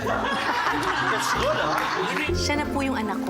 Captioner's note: laughs